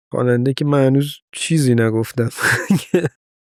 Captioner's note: laughs